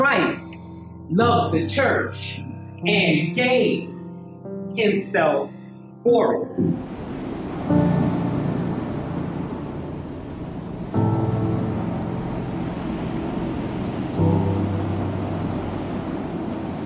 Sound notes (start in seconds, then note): 6.9 surf roaring